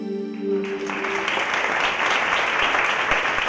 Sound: applause

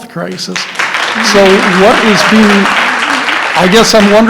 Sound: applause

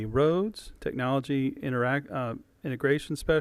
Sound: none

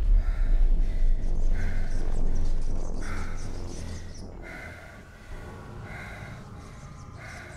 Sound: strange scratching sounds

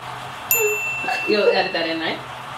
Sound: chime

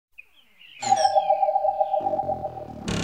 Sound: ding dong

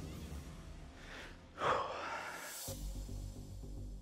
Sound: exhales heavily

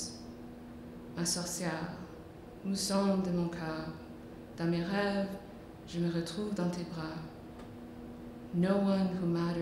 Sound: speaking French

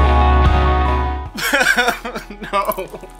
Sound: crying

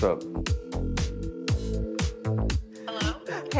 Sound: phone ringing

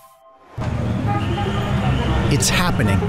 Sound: audio logo; car horns

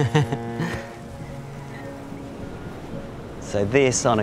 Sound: chuckles; waves lapping

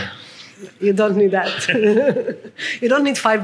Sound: laughing

